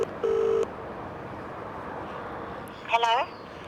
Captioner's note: phone ringing